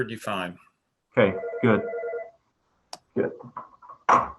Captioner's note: phone rings